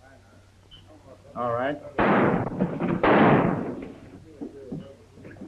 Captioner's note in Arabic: إطلاق نار